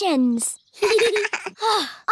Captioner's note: both laugh